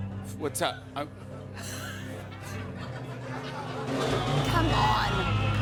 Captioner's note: laughter